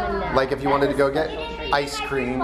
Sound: chattering in the background

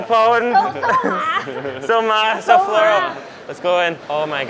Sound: speaks Mandarin

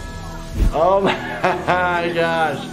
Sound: chuckles

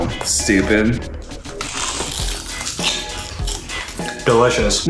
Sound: crunching

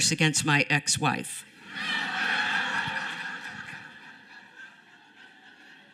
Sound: laughter

